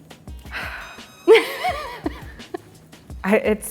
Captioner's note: sighs; laughter